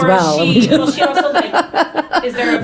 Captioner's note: laughing